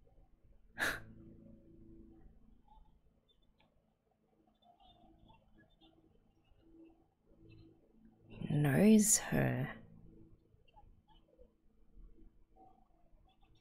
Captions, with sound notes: [exhales] He knows her.